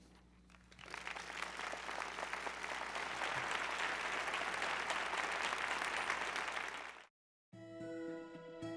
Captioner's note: applause